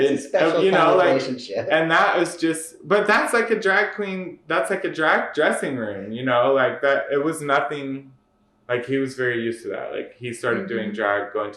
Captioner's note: laughter